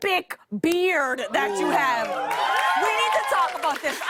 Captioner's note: cheers and applause